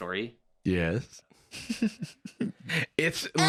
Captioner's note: giggles